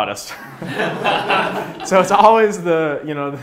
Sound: laughs

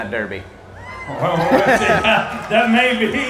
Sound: audience applause and cheers

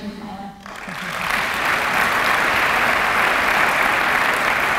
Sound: applause

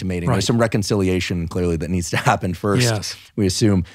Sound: laughing

